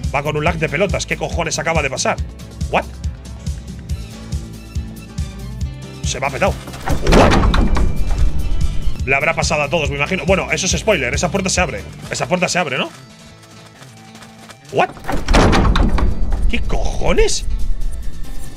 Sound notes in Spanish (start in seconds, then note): 2.9 Música de western animada; 6.3 Puerta abriéndose; 14.7 Puerta abriéndose